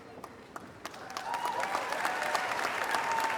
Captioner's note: applause